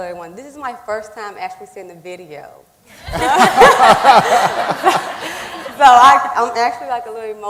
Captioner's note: laughing